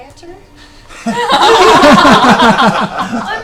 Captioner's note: all laugh